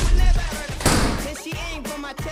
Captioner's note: slam!